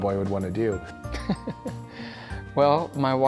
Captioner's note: laughter